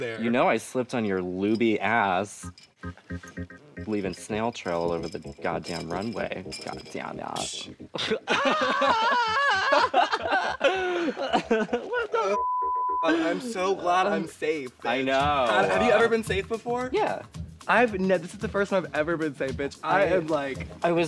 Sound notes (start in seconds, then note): 8.0 Violet laughing; 8.4 Pearl yelling